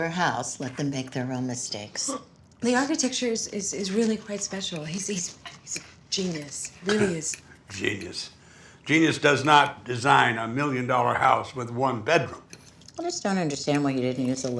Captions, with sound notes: It's not your house. Let them make their own mistakes. - The architecture is really quite special. He's--he's a genius. - [scoffs] Genius. Genius does not design a million-dollar house with one bedroom. - I just don't understand